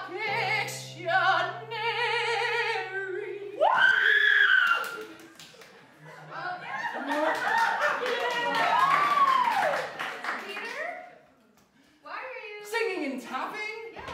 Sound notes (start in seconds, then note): 6.9 applause